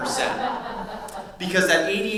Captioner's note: audience laughs